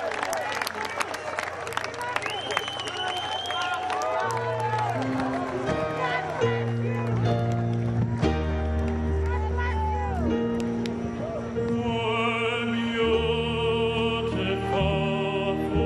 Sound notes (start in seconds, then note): 0.0 cheers and applause